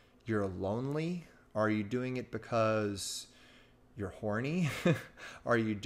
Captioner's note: chuckles